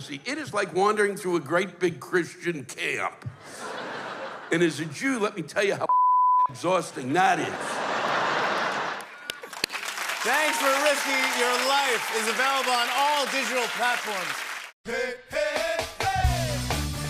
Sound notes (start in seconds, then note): 7.4 laughter; 8.1 cheer and applause